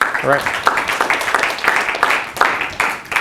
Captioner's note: applause